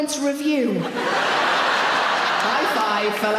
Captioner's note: audience laughs